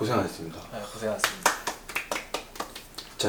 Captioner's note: clap